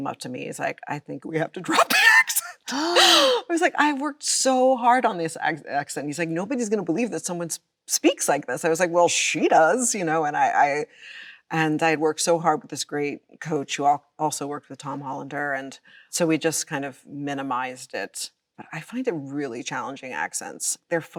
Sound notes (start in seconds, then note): 1.6 Chloe laughs; 2.6 Kim gasps